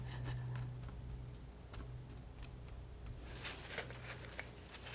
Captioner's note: scratching